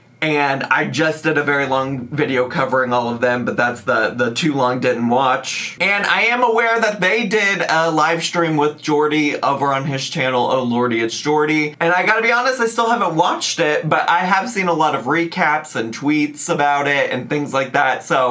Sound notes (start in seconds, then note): none